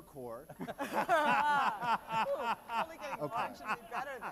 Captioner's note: laughter